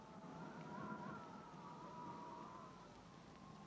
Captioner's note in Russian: шум ветра